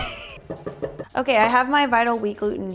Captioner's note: metal clanking